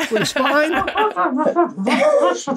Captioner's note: laughing; person imitating funny voice; person laughing